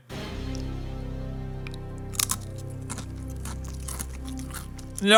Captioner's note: dramatic music; cracker crunching